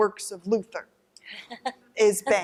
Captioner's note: laughter